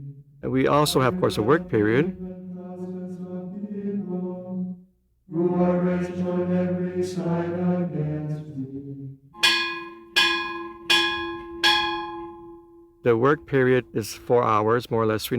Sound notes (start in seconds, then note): 0.0 chanting; 5.2 chanting; 9.3 bell ringing